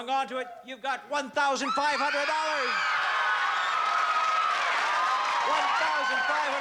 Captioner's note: cheering